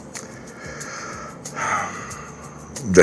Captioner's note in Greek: ξεφυσάει; αναστενάζει